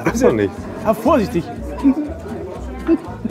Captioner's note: quiet laughter